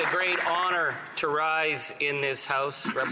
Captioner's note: some Applause